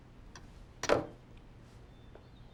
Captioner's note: knife clatters